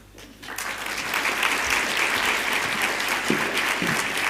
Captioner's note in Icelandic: fagnaðarlæti